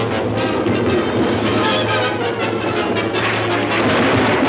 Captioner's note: explosion; gentle music